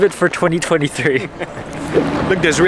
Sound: both laughing

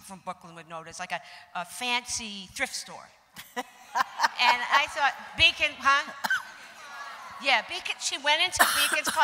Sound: crowd murmurs

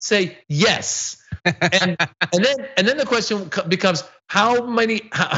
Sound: laugh

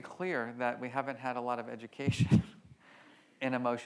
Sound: laughs

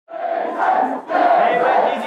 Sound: crowd chanting

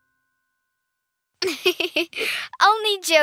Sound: giggling

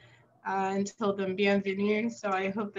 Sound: french

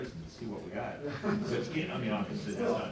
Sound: laughter

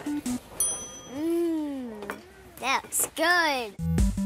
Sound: bell dings

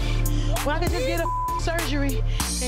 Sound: beep

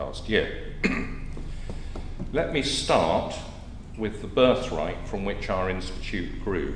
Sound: cough

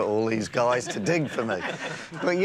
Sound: laughter

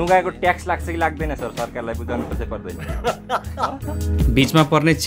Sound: laughter

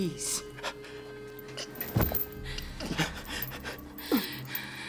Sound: taking deep breaths

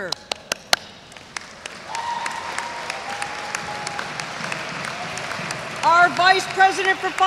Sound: audience applauds; audience cheers

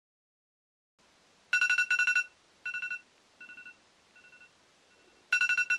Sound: the alarm is ringing; the alarm is ringing

